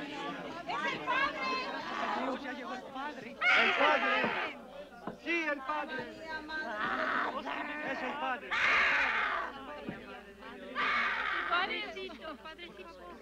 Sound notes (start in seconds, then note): 0.3 people chattering and shouting in spanish; 3.2 possessed woman screams; 8.6 possessed woman screaming